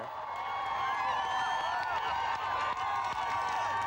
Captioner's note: cheering